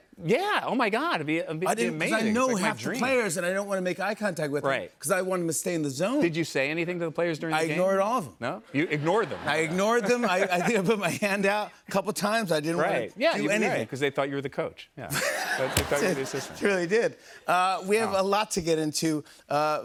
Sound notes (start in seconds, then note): 15.1 laughter